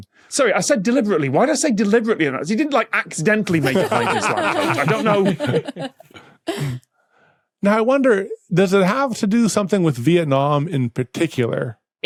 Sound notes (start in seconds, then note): 3.5 guests laughing